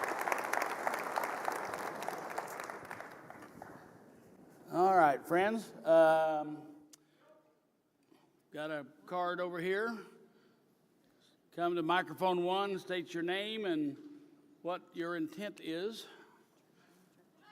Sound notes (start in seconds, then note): 6.1 applause